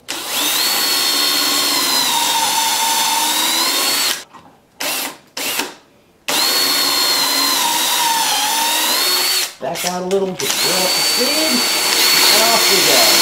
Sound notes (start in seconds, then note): 0.0 drill whirring; 6.2 drill whirring; 10.4 drills whirring